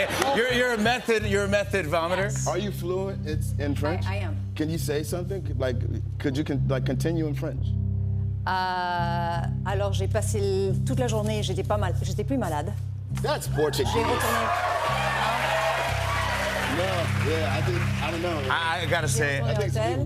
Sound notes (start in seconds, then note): 9.5 speaking French; 13.6 cheers and applause